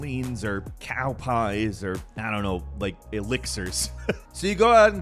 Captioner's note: laughs